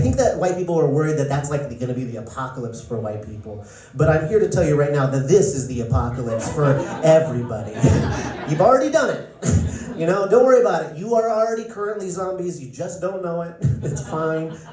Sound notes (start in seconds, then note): 7.8 laughter